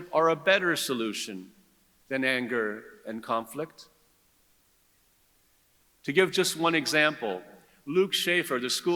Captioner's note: none